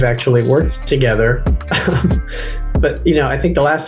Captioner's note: Michael laughs